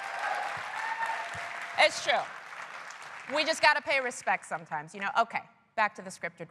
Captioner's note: applause